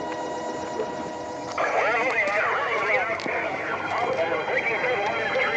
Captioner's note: various voices on police radio